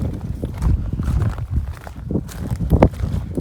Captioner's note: sound of wind picks up